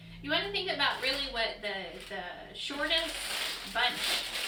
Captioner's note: crinkling